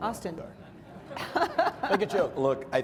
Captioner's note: audience chuckles